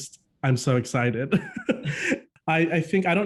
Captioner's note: both laughing